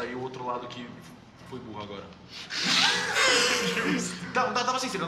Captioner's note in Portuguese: Risos